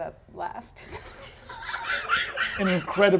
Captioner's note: laughter